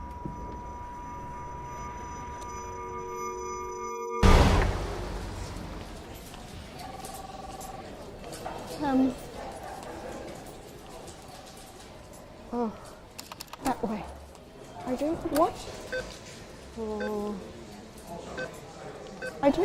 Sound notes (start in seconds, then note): 0.2 noise like ringing in ears; 6.8 muffled phone ringing; 15.9 beeping